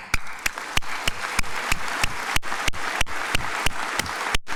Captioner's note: crowd applauding